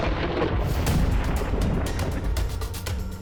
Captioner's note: lightening crashing